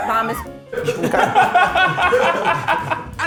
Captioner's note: all laughing